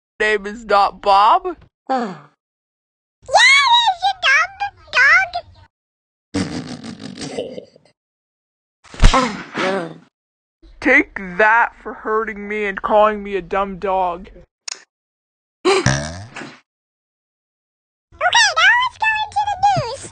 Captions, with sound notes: name is not bob YEH IT IS YOU DUMB D- DOG!!!!!! (punch) take that four hurting me and calling me a 'dumb' dog. ok, now its going to the news